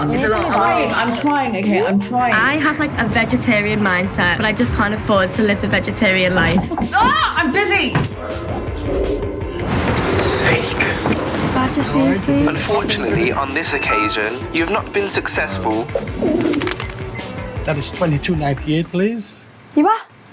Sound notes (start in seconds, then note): 16.2 door opens